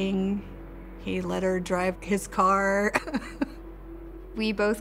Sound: chuckles

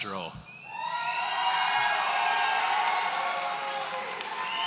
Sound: audience cheering

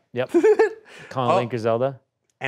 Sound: laughs

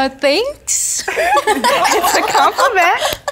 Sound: all giggling

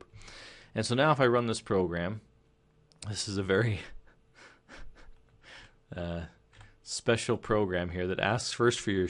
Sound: chuckle

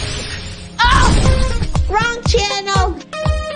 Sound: yells

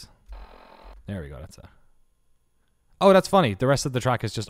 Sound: static

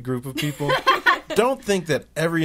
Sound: all laughing

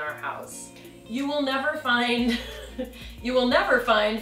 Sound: laughing

